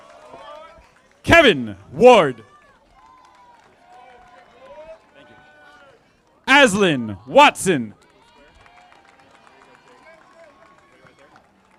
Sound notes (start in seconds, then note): 2.4 audience applauding; 8.7 audience applauding